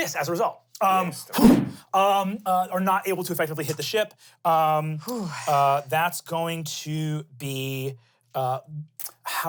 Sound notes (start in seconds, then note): 5.0 sighs